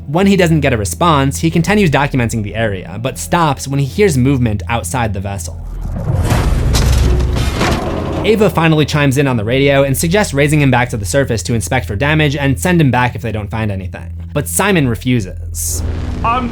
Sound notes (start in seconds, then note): 5.6 banging sound